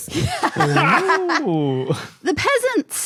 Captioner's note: cackle